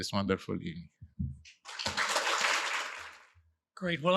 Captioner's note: applause